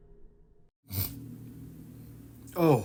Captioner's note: snorts awake